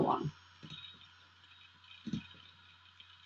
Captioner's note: silence